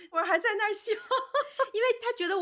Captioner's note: laughing